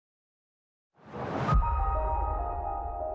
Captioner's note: logo whooshing; light music